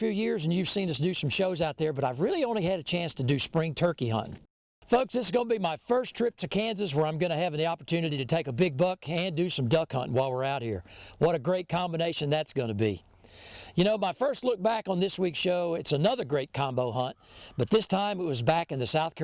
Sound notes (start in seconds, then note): none